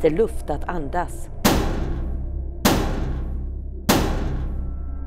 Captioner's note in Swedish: hårda skåpbankningar